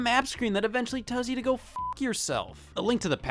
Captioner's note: beep